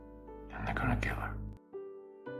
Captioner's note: voiceover